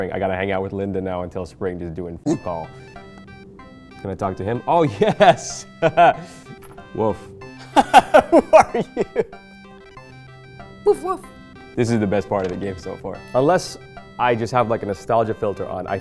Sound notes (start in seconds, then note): 2.3 video game dog barks; 5.8 laughing; 7.6 laughing